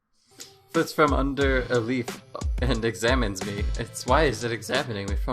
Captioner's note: chuckles